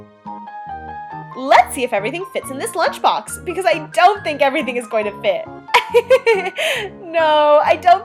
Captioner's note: laughs